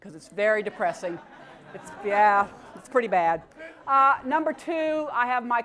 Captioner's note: laugh